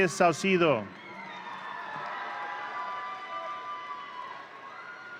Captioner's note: audience cheering